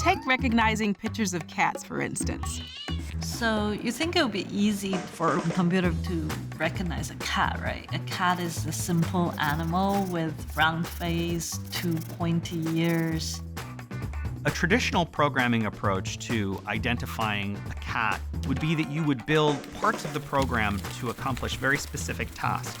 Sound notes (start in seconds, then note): 2.4 meowing